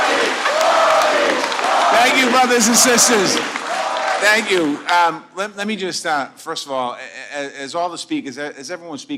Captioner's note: applause